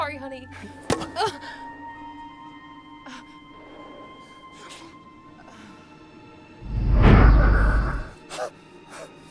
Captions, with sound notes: - I'm sorry, honey. (thunk) (Ellen grunts)